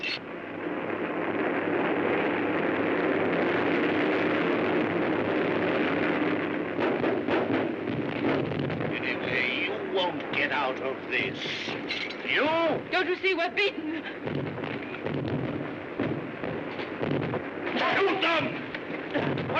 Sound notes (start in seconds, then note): 0.1 loud rumbling; 6.8 loud popping; 14.2 soft booming